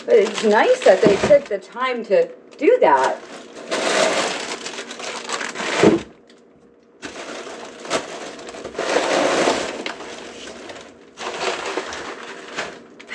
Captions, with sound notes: But it's nice that they took the time to do that, (paper crumpling)